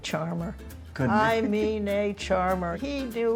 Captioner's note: laughing